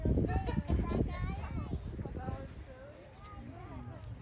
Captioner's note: kids chattering